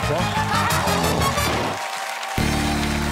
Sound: cheers and applause

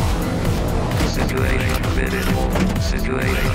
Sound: Trog whirring; metal clanging; voice alarm speaking

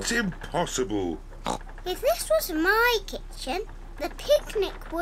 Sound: oinks

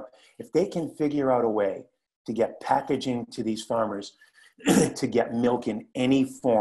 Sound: cough

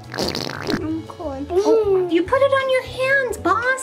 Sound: squeezing bottle

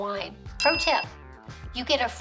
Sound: bell rings

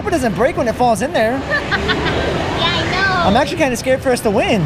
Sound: laughs

